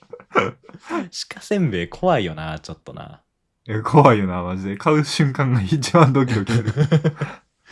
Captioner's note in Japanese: 笑い